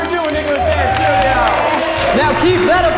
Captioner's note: audience cheering